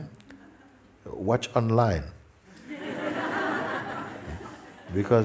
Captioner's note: laughter